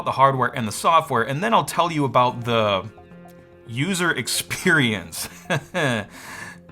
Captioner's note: laughs